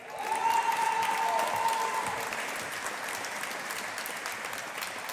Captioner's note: audience applauding